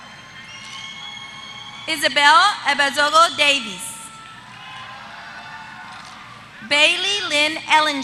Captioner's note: applause